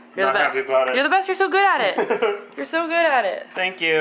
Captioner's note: laughs